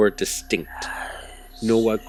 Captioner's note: eerie Whispers